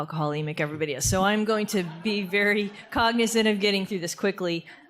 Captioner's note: audience laughter